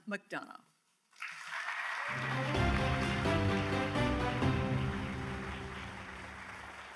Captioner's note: audience cheers and applauds; grand music